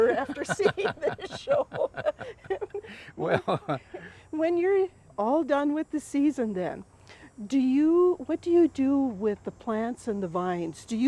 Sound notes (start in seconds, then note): 3.3 laughing